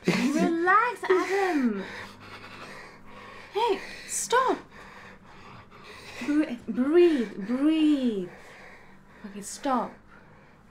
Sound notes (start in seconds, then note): 1.2 Adam panting